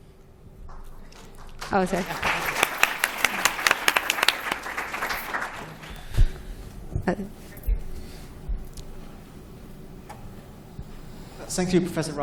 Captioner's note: applause